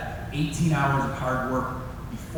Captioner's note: none